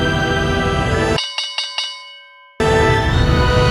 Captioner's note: ding